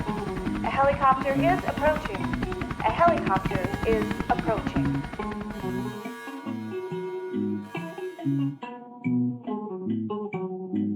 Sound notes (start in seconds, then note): 5.0 bell tolls; 6.8 electronic music continues